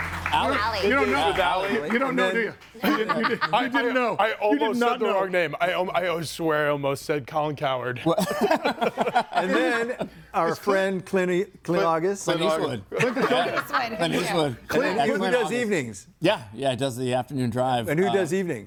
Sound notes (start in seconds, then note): 2.8 laughs; 8.0 group laughs